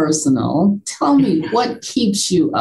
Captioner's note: chuckles